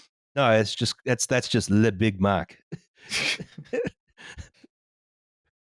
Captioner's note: light laughter